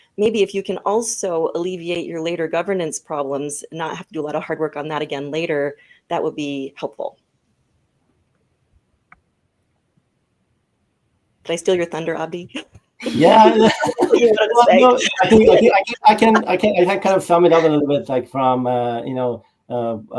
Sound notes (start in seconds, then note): 13.0 all laugh